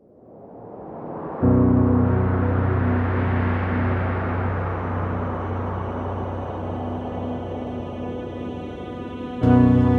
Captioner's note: wind whooshing and music swelling up